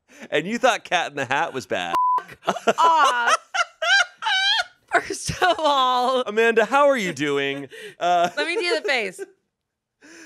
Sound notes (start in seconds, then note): 1.9 beep; 2.2 laughs